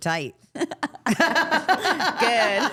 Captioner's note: all laughing